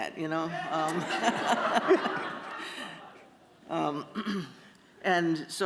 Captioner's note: laughter